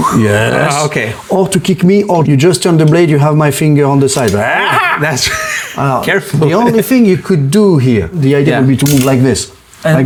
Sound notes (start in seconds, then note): 4.4 shouts; 4.4 laughs